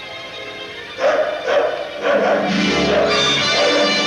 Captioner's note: Nana barking